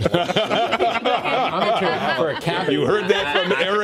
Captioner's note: laughter